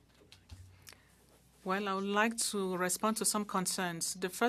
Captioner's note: speaking French